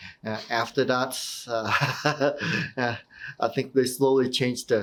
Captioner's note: laughing